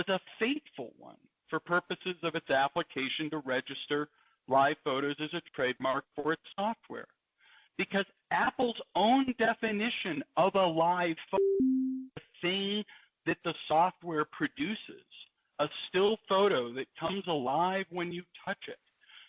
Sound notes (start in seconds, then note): 11.3 beep